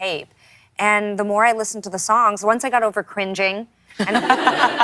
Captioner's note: laughter